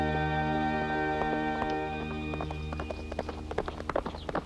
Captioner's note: hooves clomping